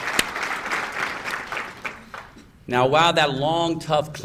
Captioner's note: applause